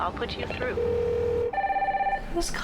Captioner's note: phone ringing